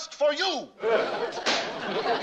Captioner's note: gavel bang